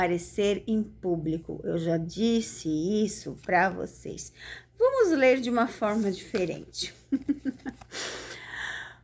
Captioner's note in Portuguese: risadas